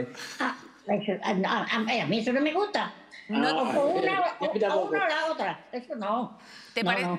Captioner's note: babbles